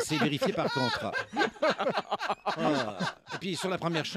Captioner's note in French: rires